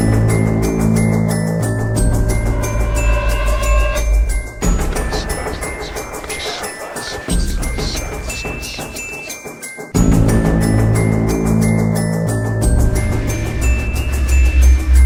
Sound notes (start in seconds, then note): 0.0 dramatic music; 5.8 demonic whispering